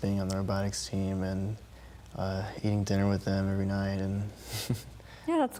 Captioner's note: laughing